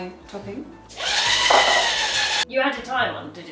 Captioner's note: whisk whirs